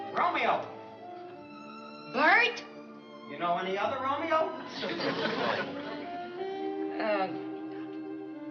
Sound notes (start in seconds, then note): 6.9 groans